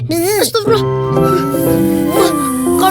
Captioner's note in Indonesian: suara lebah terbang